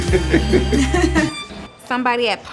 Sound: laughing

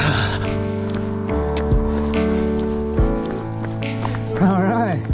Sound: footsteps pounding

